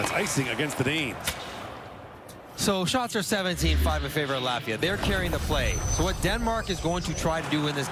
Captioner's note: crowd Noise